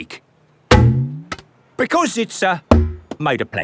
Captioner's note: thunks